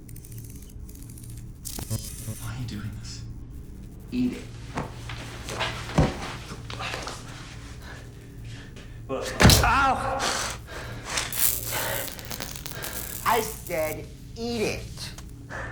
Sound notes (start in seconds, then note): 5.9 foot stomps